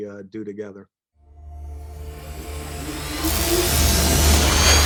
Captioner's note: logo whooshes